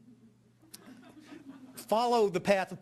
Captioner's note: audience laughing